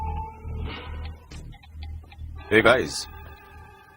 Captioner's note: footsteps approach